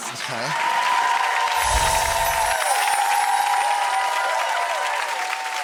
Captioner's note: audience cheering